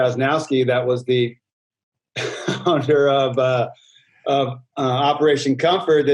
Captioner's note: chuckles